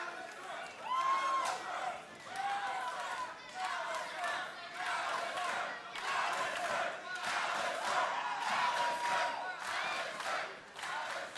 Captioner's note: crowd cheering